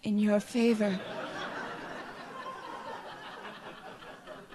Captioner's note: audience laughs